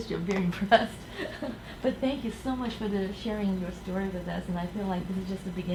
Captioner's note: laughs